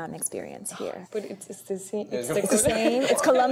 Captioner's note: mumbling and laughter